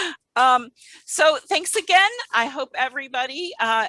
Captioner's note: laughter